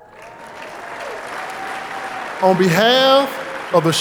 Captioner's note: audience applauding